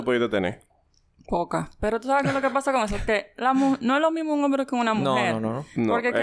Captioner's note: laughs